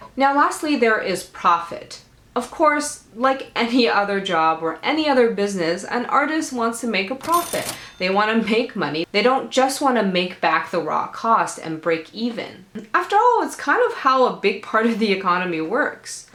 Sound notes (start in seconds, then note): 7.2 kaching Sound